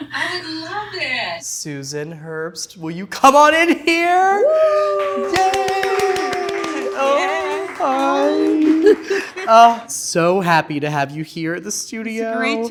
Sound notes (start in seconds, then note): 4.9 clapping